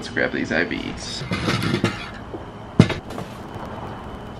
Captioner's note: chair scraping on porch